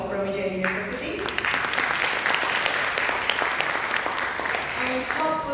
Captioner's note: audience applause